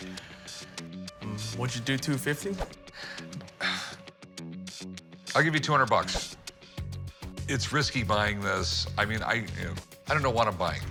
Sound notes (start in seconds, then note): 2.8 sighs, scoffs